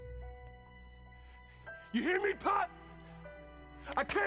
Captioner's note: yelling